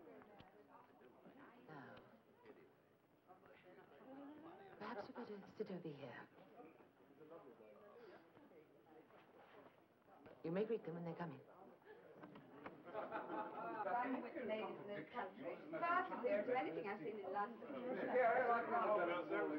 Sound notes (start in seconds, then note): 14.2 crowd chattering